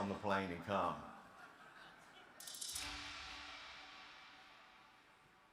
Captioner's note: audience laughs